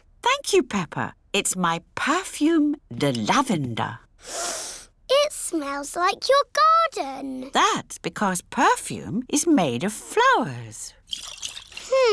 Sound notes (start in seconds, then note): 4.2 sniffs